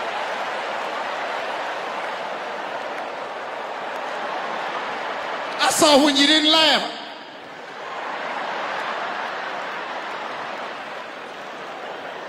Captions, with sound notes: I saw when you didn't laugh. (audience laughing)